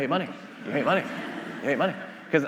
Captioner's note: attendees laughing